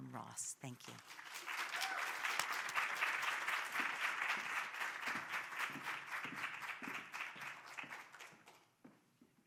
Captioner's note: applause